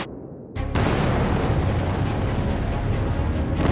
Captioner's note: explosion booming; dramatic music